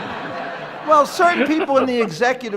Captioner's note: laughter